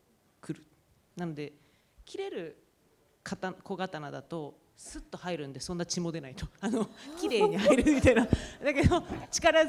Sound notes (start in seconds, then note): 7.2 laughter; 7.7 speaking japanese